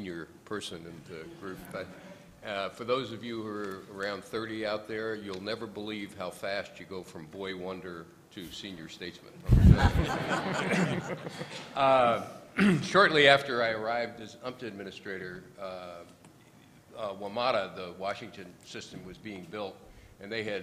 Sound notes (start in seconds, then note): 9.5 laughter